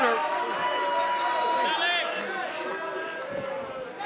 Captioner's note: crowd cheering